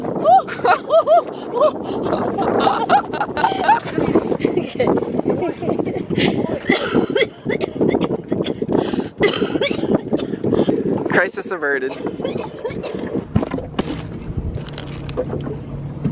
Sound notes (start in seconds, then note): 0.1 laughter; 6.6 coughing; 14.6 plastic crinkling